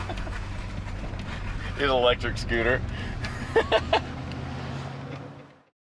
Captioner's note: laughs